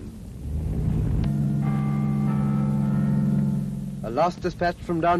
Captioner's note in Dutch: klokken luiden